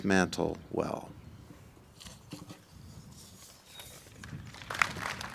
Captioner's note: applause